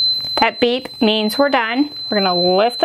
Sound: machine beeps

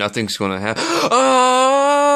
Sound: screams of death

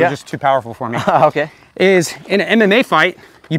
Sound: chuckles

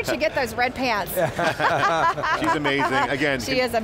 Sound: everyone laughs

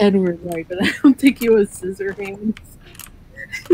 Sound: laughs

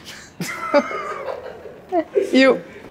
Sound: laughing

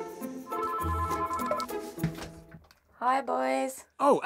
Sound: phone rings; dial tone plays

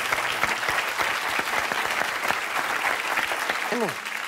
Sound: applause

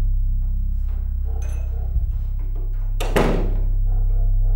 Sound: door opens and shuts

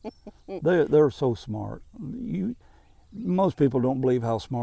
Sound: laughing

